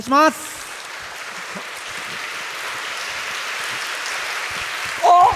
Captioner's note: applause